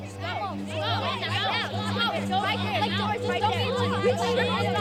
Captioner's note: kids taunting